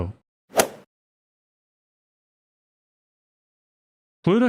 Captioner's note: golf ball hit sound effect